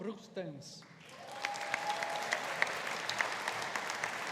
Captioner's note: audience applauding